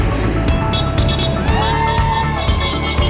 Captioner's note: horns honking; crowd cheering